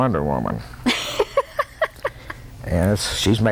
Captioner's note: laughter